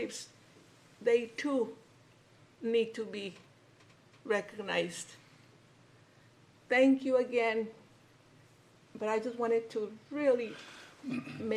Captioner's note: clears throat